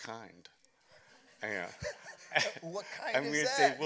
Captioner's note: chuckles